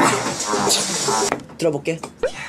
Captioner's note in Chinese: 加上老虎咆哮的效果